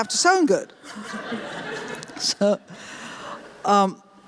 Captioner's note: laughter